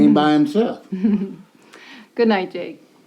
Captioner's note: Natalie giggles